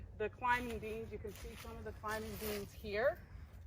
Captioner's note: crunching leaves